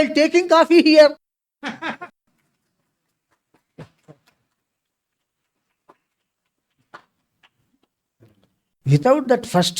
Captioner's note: claps; laughs